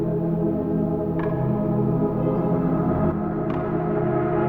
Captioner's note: eerie clock sound